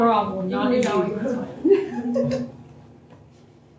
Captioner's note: laughter